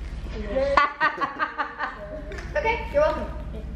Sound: laughing

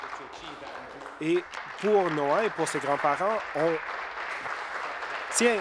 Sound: applause

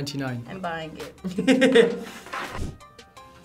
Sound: laughs

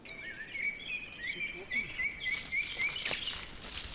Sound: birds chirping

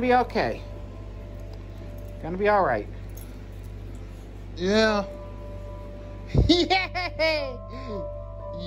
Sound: laughs

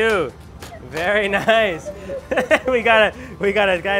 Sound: laughs

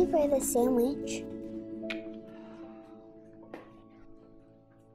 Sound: tongue clicks

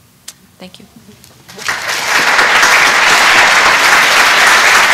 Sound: applause

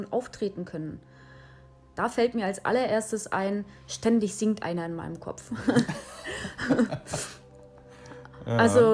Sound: laugh

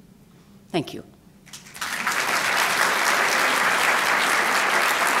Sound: applause

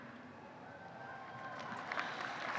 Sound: applause

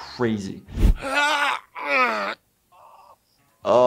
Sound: grunts

